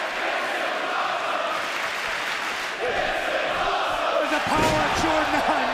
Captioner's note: fans chanting